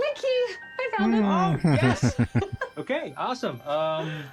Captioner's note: chuckling